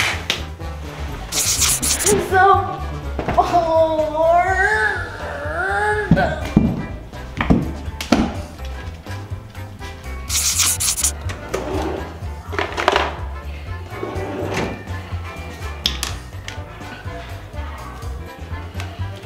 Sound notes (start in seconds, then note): 2.9 whining